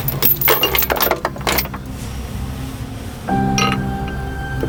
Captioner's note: metal clanks; soft intense music